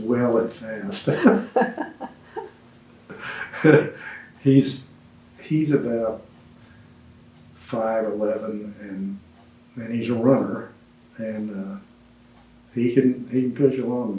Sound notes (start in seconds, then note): 3.0 laughs